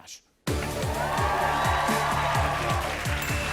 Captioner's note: cheers and applause